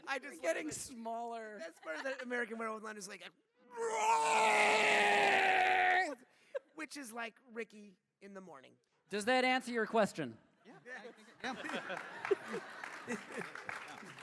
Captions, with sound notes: Getting smaller. That’s perfect, American Werewolf in London is like, [screams]. Which is like Rikki in the morning. - Does that answer your question? - Yeah. [cheers]